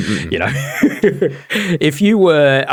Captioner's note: laughs